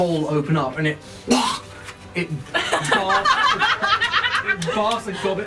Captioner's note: wretching sound; all laugh